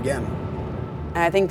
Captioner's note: wind blowing